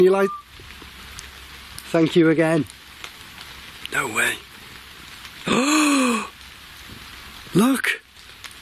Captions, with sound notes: Can you light-- (whistling) Thank you again. No way. (gasps) Look!